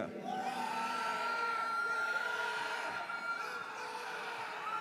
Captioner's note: audience cheers